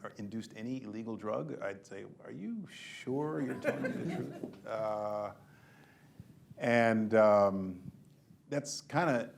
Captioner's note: laughter